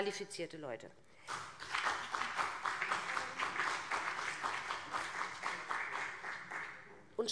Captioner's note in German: Beifall BÜNDNIS 90/DIE GRÜNEN und CDU